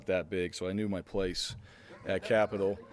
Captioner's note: laugh